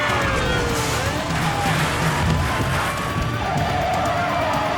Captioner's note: garbage crashing; tires screeching